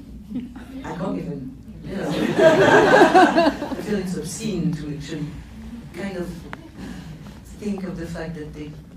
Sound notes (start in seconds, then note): 2.1 laughs